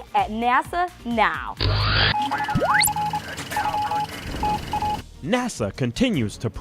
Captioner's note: sound Effects